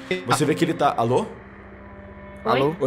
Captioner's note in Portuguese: robótico